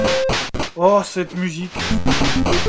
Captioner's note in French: bruitages 8 bit moches; bruitages 8 bit moches